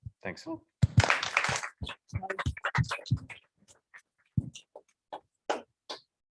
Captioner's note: applause